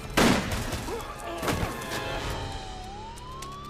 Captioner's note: gun clicking; gun firing; man grunting; sirens wailing